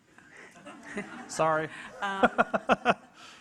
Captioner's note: audience laughing; laughs